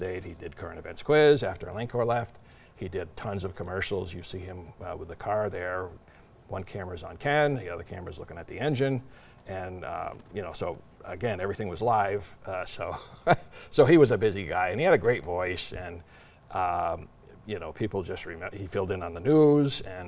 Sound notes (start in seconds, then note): 12.9 laughs